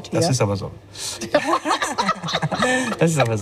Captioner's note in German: lacht